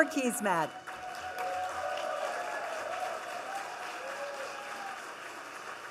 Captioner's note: audience cheering and clapping